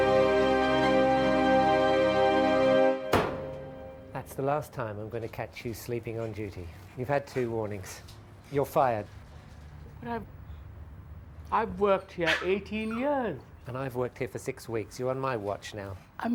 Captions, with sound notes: (pounding) - That's the last time I'm going to catch you sleeping on duty. You've had two warnings. You're fired. - But I've worked here 18 years. - And I've worked here for six weeks. You're on my watch now.